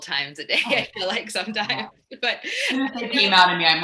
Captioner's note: laughs